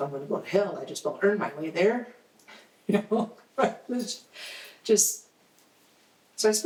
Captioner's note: chuckles